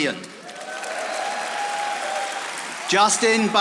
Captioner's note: audience applauding